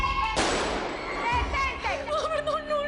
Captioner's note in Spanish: Disparos